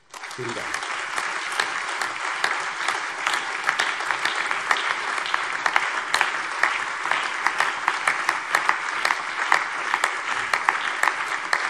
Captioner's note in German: Anhaltender lebhafter allgemeiner Beifall